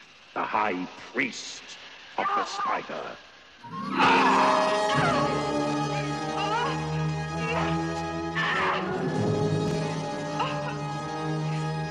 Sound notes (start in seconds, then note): 3.5 yelling; 8.3 screaming